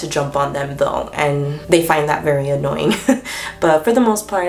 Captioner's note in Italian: ridacchia